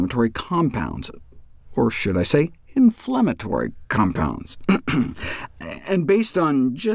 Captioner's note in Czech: odkašlání